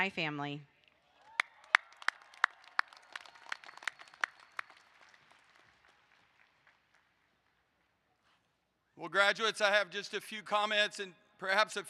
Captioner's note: applause